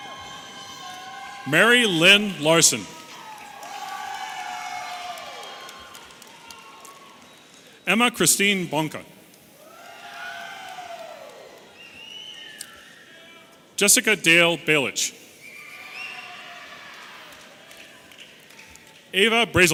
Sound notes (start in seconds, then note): 9.5 audience cheering and whistling; 15.4 audience cheering